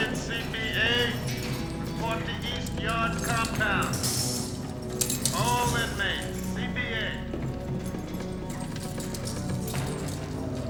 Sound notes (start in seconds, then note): 1.6 over P.A